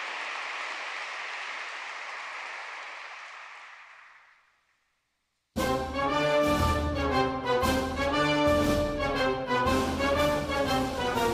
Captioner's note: applause